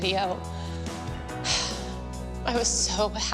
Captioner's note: sighing